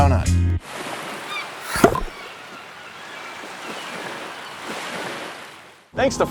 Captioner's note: water splashing; birds singing